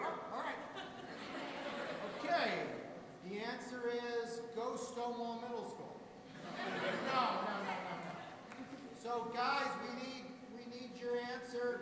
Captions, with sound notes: - Oh, all right. (audience laughing) Okay, the answer is go Stonewall Middle School. (audience laughing). No, no. So guys, we need your answer